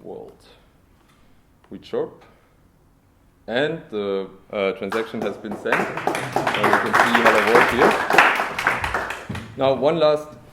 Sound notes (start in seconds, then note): 4.9 applause